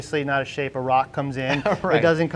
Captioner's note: laughs